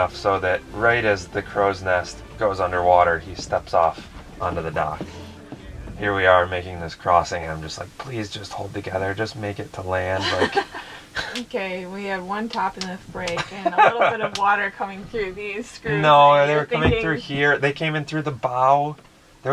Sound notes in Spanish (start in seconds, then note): 10.1 se ríe